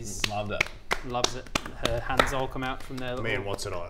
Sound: applause

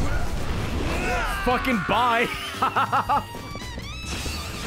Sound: laughs

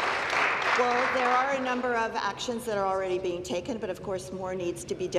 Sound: applause

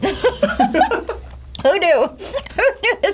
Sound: laughs

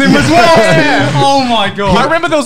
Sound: laughing loudly

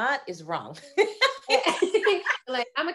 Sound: both laughing

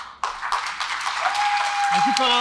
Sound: applause; cheering

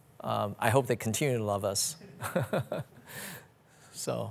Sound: laughs

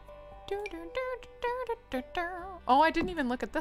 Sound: humming

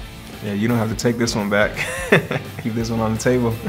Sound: laughs

